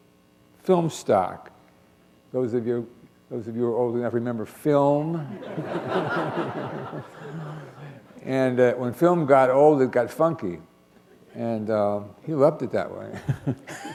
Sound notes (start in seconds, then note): 5.2 laughter